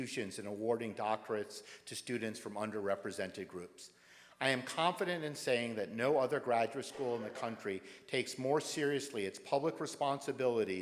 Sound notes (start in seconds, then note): none